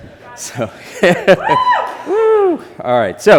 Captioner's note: chuckles